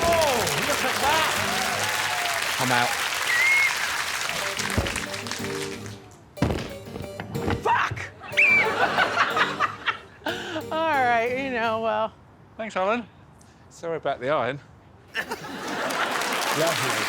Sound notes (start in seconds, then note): 0.0 audience applauding; 6.4 basket thudding; 6.4 iron thudding; 6.4 harpsichord music; 8.3 Alex blowing whistle; 8.3 audience laughing; 11.0 laughing; 15.4 audience applauding